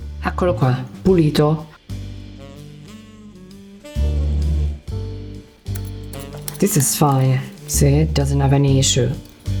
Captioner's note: speaking Italian